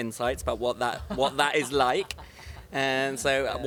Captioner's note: Jason laughs